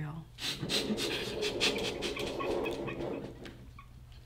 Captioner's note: laughing